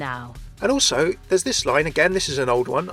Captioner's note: voiceover